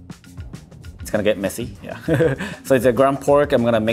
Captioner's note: chuckles